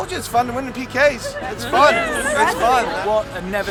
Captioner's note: girls murmur and laugh in agreement